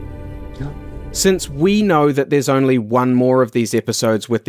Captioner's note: noncommittal noise